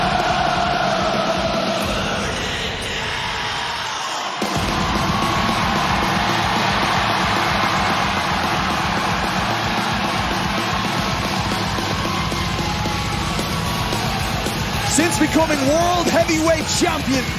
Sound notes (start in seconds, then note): 6.6 crowd chanting; 6.6 screaming